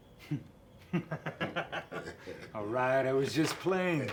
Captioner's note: laughs